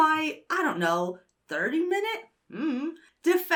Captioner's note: hums uncertainly